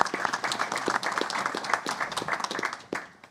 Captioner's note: applause